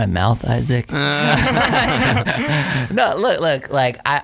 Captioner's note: all laughing